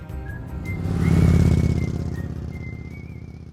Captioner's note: engine revving